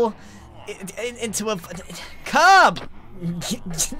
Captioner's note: sighs